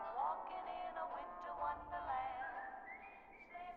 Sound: whistling

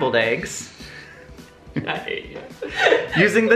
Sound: laughing

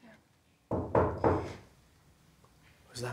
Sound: knock at the door

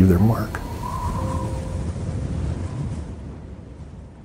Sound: wind

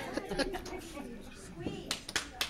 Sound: laughing

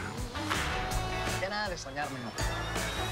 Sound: in Spanish

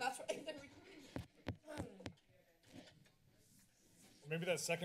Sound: taps mic

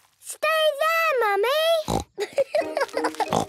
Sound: laughing

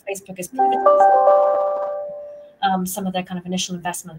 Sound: computer chiming

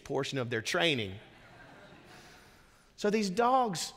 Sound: congregation laughing

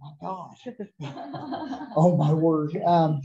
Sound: laughter

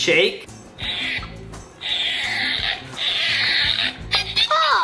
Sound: balloon sounds

